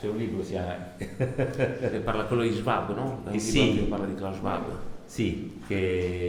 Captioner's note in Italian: risata